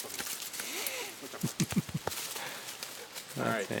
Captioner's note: laughing